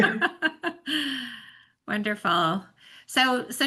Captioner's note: laughing